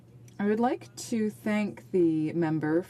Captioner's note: speaking French